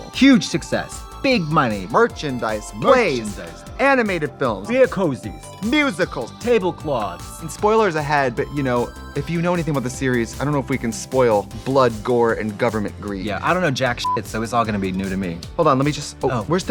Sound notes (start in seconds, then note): 14.0 beeping